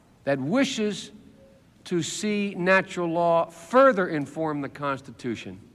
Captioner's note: none